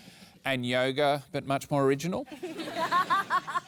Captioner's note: laughter